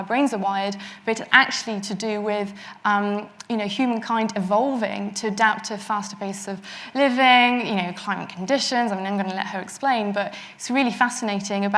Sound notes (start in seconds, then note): none